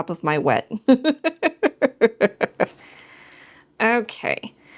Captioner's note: laughs